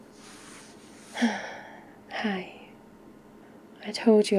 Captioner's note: sighs